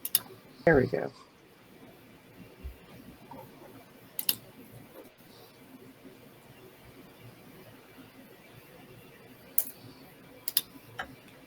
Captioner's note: Clicking in Roll20